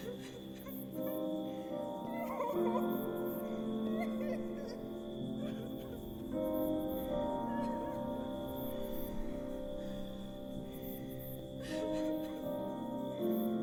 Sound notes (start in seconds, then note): 0.0 person crying; 0.0 somber music; 3.8 person crying; 4.5 somber music continues